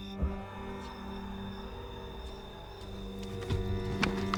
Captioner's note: boot whirring